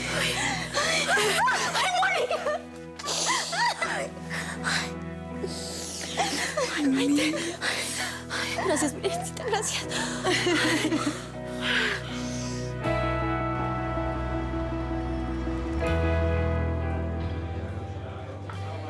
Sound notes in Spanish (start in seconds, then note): 2.1 exclamaciones; 6.0 risas y suspiros